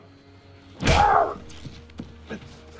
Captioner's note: Roy yells